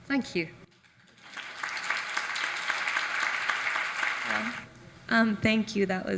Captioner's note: audience applauds